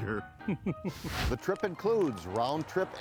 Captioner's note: laughs